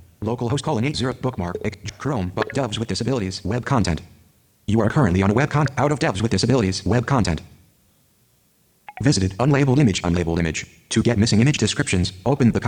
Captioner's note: computer screenreader voice reading